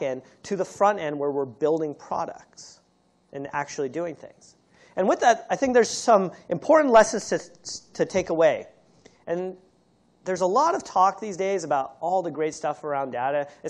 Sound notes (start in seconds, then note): none